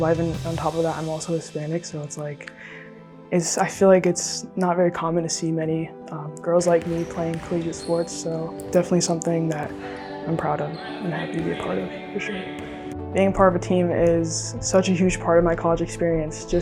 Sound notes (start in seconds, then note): 10.7 team shouting